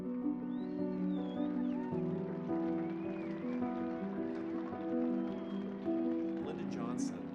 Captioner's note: calm piano music; audience applauding; crowd cheering